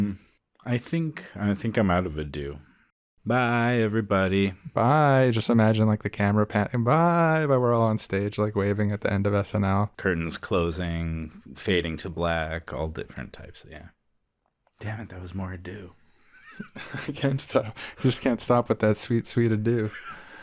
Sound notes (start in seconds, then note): 16.3 both laugh